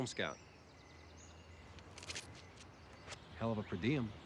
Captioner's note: bird chirp